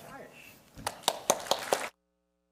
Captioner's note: applause